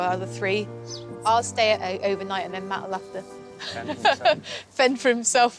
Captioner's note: laughs